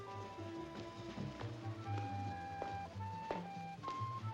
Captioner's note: Johnny's footsteps; jazz music